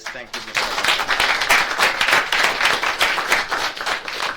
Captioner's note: audience claps